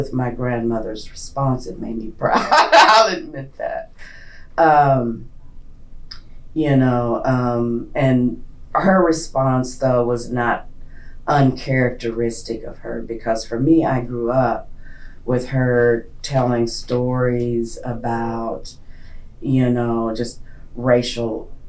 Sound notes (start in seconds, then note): 5.0 laughs